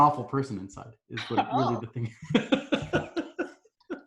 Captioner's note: laughs